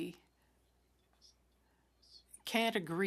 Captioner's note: speaking French